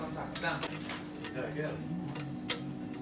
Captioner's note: background talking